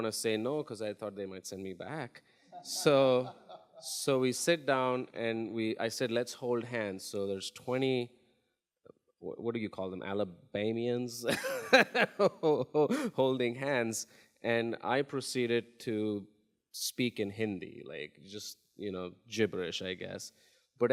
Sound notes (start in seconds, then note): 2.6 laughs; 11.2 laughs